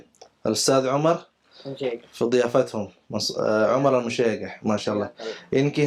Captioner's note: Arabic